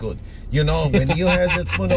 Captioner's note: laughs